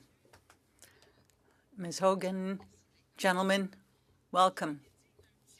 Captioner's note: speaking French